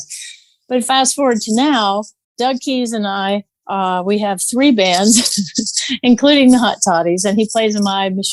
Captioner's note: guffaw